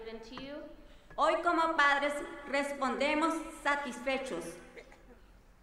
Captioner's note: speaking in foreign language